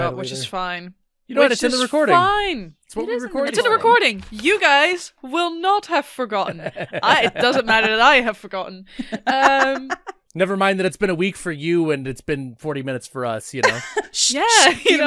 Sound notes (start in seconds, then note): 9.0 laughter